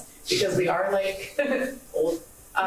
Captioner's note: laughs; laughing